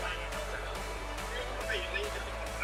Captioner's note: Cantonese; cantonese: Why don't you just pick it up for him then